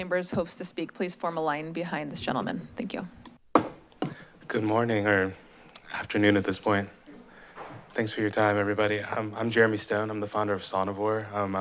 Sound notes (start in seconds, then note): 3.5 gavel tap